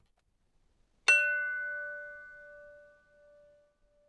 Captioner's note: bell ringing